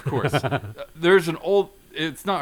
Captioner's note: laughs